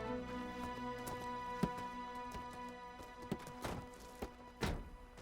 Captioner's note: vehicle doors click; vehicle doors thudding